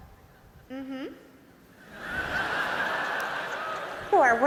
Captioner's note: laughter